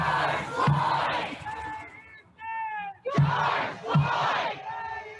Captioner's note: helicopter blades whirring; crowd